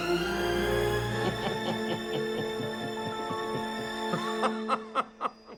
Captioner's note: Maurice laughing